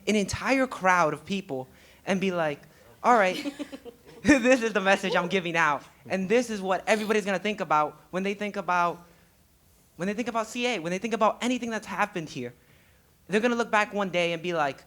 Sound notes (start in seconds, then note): 2.9 laughing; 3.1 laughs